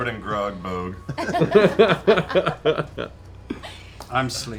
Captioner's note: laughter